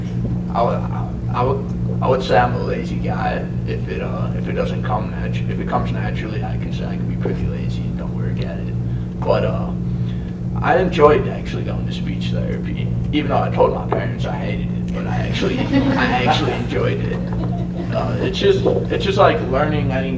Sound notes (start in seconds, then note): 15.2 laughter